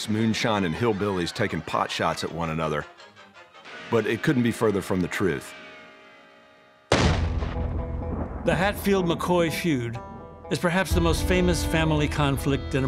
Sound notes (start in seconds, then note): 6.9 gun fires